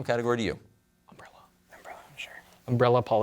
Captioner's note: whispers